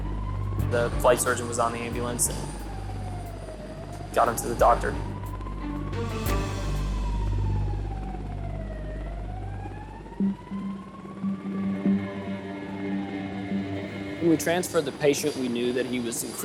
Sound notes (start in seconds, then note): 6.0 sirens blaring; 6.0 tense music